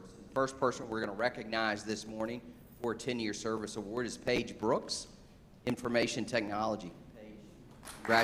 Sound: applause

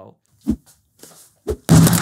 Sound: whack

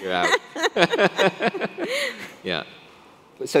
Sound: laughing

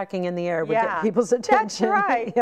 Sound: laughing

